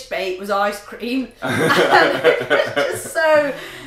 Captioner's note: laughter